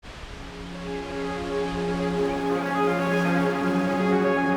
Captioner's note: trees rustling; inspirational music